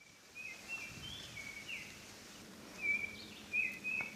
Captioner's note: birds chirping